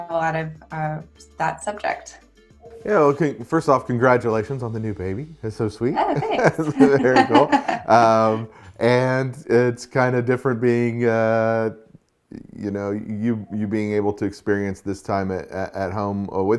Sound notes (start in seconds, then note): 5.9 laughs; 5.9 chuckles